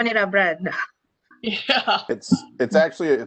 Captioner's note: laughter